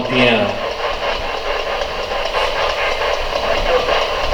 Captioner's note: pulsing static